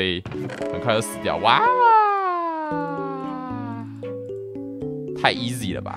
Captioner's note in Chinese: 哇啊~~~